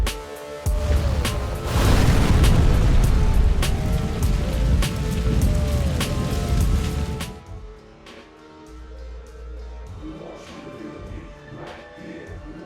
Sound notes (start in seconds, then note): 0.7 fire whooshing